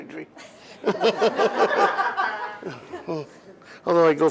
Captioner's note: laughter